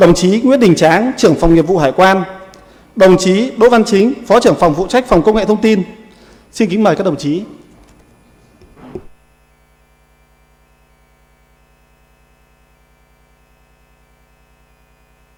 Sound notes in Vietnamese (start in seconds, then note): 7.4 khịt mũi